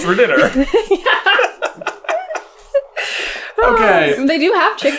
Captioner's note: laughter